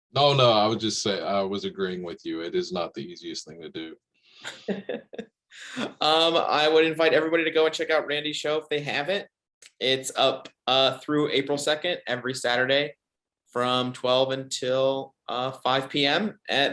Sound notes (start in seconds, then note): 4.4 laughs